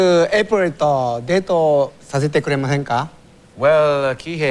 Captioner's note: speaks japanese